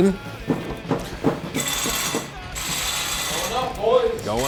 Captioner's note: tools whirring